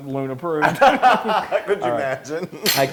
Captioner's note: laugh